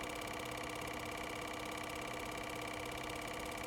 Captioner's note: film projector running